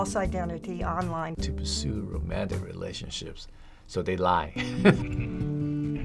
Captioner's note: laughs; upbeat music